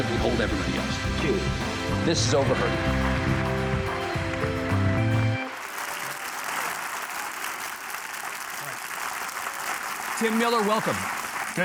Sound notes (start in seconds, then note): 2.5 audience applauding; 3.3 upbeat music